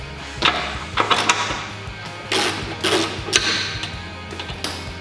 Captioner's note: ratcheting